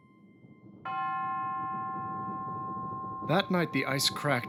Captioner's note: bells chiming